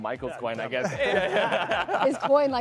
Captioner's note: panelists laughing